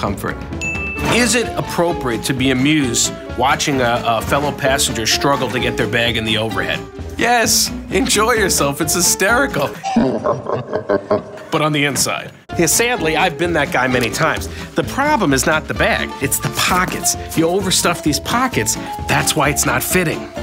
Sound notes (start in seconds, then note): 9.8 slow motion deep laugh